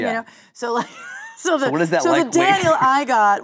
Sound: laughing

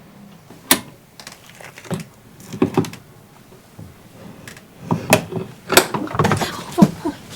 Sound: door opening sound

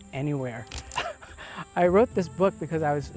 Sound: lamp clicking; chuckling

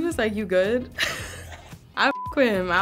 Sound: chuckling; beep

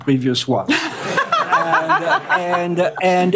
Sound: laughter

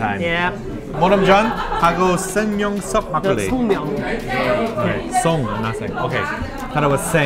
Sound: speaking Korean

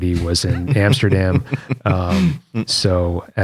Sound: laughter

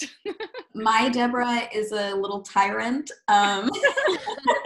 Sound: laughing; laughs

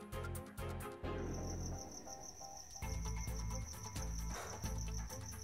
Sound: crickets

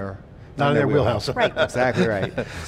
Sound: laughs

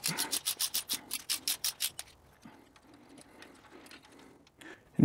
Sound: ratchet Noise

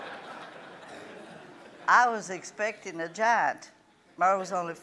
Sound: laughing

